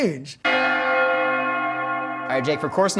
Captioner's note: bells Ringing